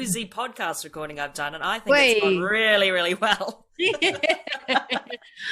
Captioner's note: laughs